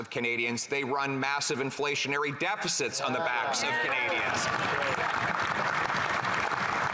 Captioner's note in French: voix de l'interprète